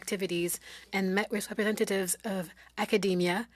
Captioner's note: speaking French